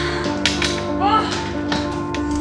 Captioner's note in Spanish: gemidos